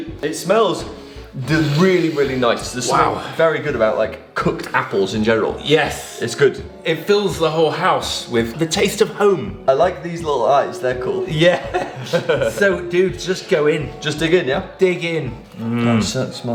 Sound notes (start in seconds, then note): 11.4 laughing